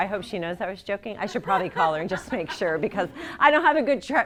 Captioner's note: laughter